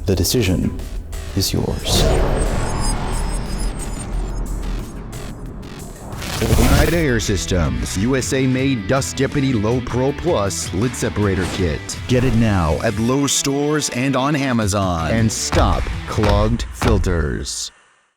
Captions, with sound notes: The decision is yours. - [Digital Glitching] - [Ambient Digital Hum] Oneida Air Systems USA-made Dust Deputy Low-Pro Plus Lid Separator Kit. Get it now at Lowe's stores and on Amazon, and stop clogged filters!